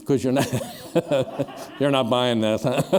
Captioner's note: laughter